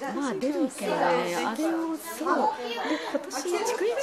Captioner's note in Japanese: ざわつき